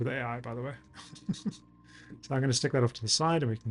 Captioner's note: laughs